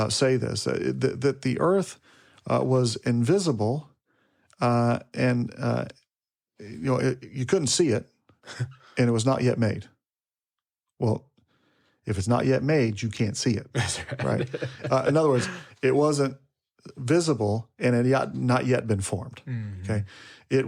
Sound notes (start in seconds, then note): 8.5 speaker chuckles; 13.7 speaker laughs